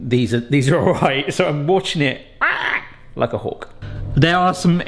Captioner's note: imitates hawk screeching